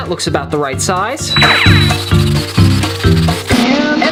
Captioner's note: drilling